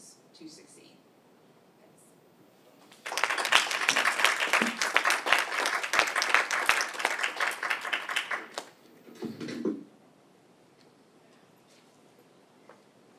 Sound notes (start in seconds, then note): 2.9 appluase